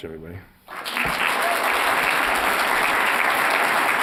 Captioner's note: applause